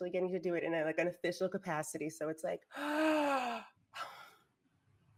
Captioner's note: sigh